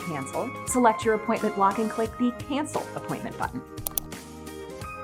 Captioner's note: mouse Click